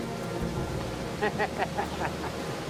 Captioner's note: laughing